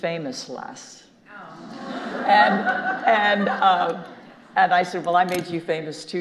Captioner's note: audience groaning and laughing